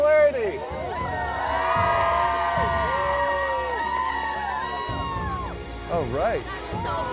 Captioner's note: crowd cheers and applauds